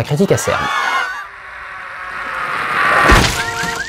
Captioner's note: scream; splash + Car alarm